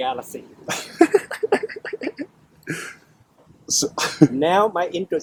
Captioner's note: laughters